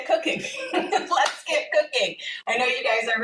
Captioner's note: laughs